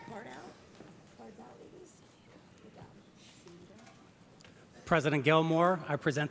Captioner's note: speaking off mic